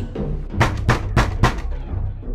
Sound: knocking on the door

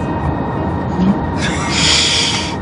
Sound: they laugh

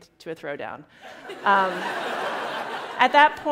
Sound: laughter

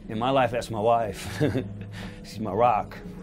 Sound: chuckling

